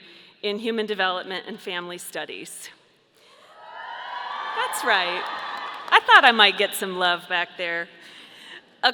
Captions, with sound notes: in human development and family studies. (audience cheering) That's right. I thought I might get some love back there.